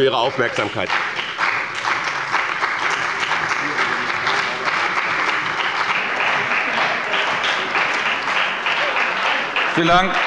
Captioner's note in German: Beifall bei dem BÜNDNIS 90/DIE GRÜNEN und der CDU